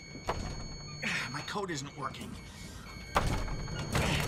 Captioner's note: keypads beeping; sighs